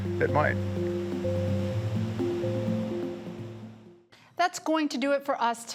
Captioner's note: waves crashing; calm music continues